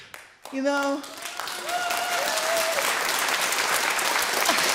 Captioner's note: audience claps and cheers